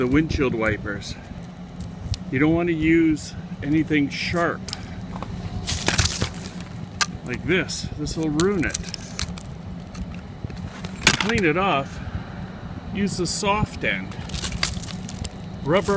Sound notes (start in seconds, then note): 5.6 ice scraper